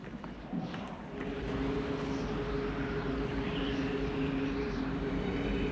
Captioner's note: wind gusting